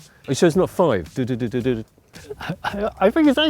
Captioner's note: humming